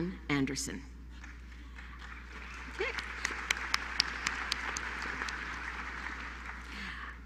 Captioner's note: applause